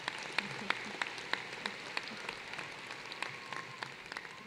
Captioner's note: applause